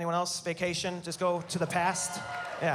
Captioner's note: cheering